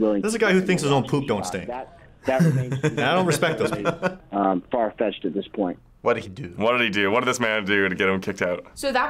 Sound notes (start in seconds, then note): 2.2 laughs